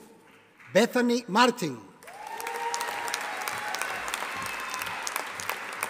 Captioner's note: audience applauding